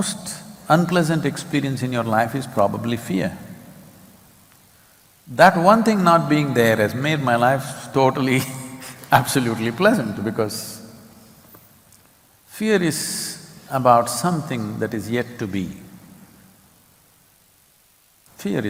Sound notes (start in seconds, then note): 8.5 laughs